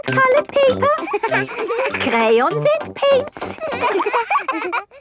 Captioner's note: all laughing